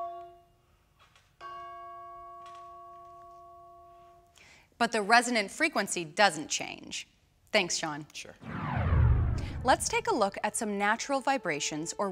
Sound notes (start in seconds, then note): 1.6 chimes ringing softly